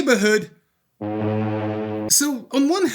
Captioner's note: foghorn noise